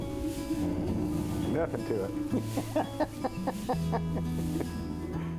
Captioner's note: chuckling